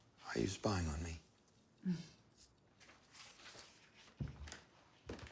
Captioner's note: Marie chuckles